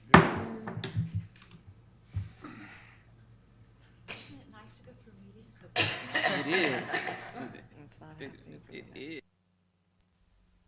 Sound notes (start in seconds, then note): 0.1 gavel banging; 5.7 person coughing